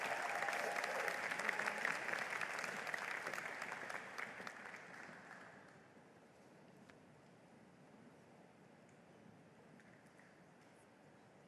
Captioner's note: applause